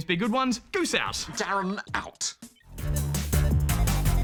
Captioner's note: australian accent